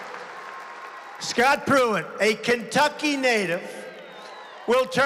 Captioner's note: applause